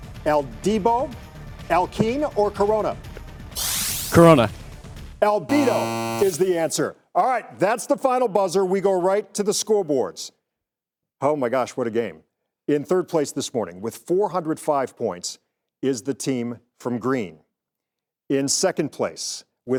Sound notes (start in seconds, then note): 3.6 digital sound effect; 5.5 buzzer